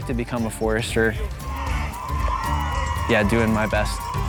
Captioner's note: cheering